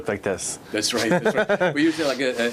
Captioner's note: interviewer laughs